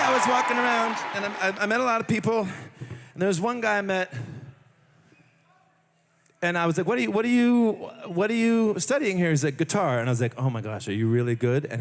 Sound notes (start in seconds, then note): 1.5 cheering